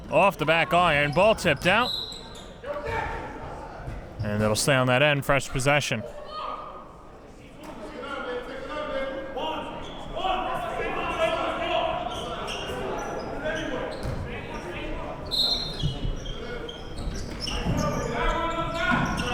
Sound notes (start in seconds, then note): 9.5 players murmuring; 15.8 whistle blows